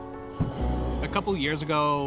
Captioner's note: burner sparking